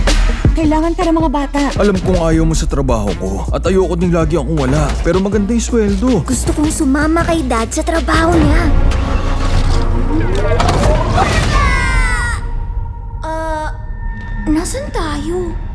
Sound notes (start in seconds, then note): 8.4 engine starts